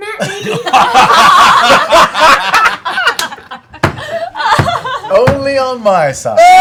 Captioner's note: laughter